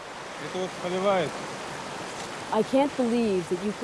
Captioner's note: speaking foreign language